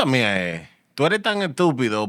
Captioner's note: speaking Spanish